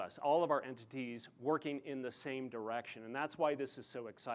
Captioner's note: none